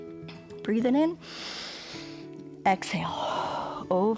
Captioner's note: exhales; inhales